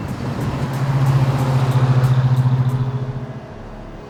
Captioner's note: car roars